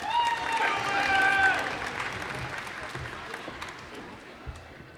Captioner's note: cheers and applause